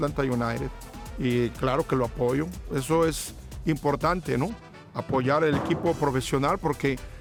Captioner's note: continues speaking in foreign language